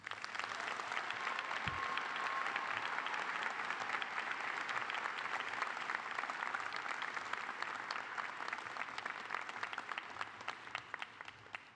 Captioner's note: applause